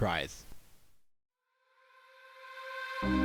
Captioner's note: voiceover